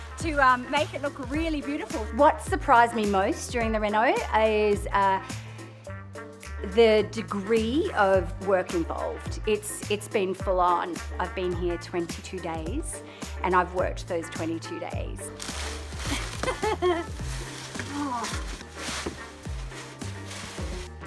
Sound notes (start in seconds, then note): 16.1 laughing; 18.3 jazzy music